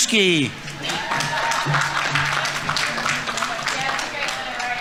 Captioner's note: audience applauding; audience members cheering